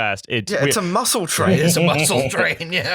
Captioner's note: laughter